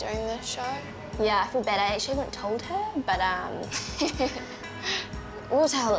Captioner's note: both laugh